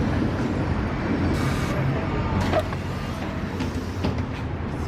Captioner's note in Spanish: apertura de puertas